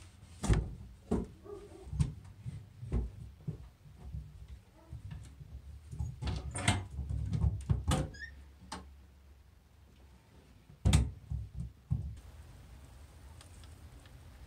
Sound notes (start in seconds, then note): 1.2 thudding, keto barks; 5.6 latch and door squeak; 10.6 thud